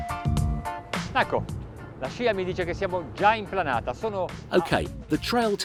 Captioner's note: foreign language